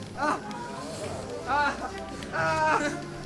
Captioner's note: Germano moans in pain